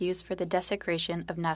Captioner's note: speaking french